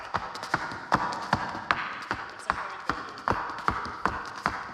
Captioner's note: shoes clacking